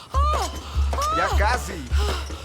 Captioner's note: shouting